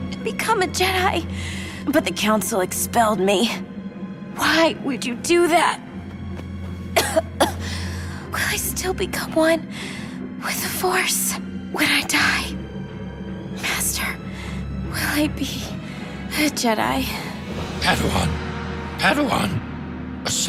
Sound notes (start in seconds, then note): 6.9 coughing